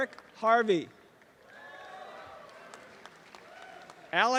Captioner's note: applause and cheering